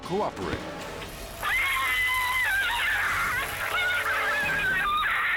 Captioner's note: woman screaming